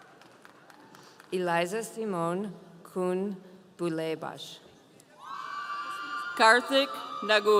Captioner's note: audience cheering; audience cheering